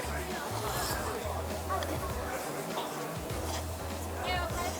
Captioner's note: slurps